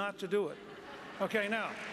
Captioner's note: applause